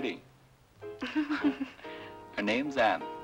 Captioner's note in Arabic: آن تضحك